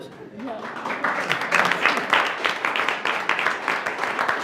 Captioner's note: attendees applauding